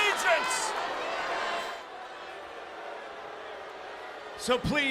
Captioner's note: applause